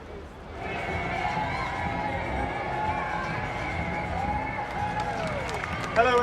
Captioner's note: birds chirping; indistinct chatter; crowd cheering; muffled instrumental music